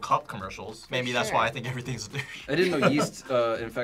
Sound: laughs

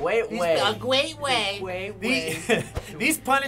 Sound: nasally

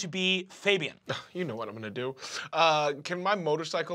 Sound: scoffs

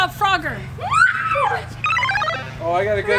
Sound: squealing

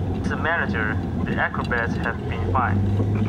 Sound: manager On Phone

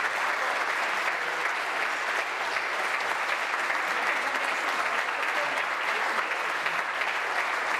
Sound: applause

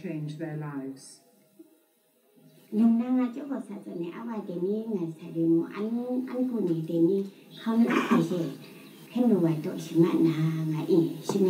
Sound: foreign Language

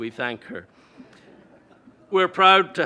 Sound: audience laughing

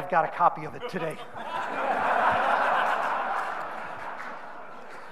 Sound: audience laughing

